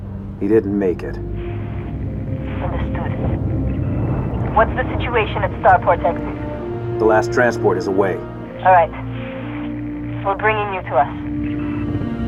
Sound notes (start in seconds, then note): 2.8 radio; 8.8 radio